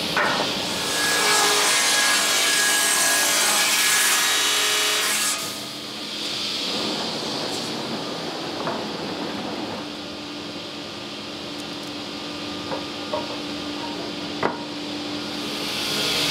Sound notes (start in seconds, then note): 0.5 saw noise